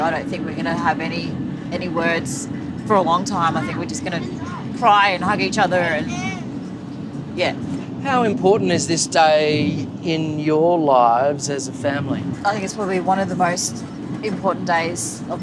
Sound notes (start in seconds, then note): none